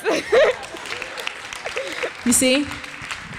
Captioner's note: audience applauds